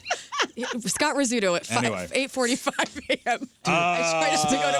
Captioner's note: laughing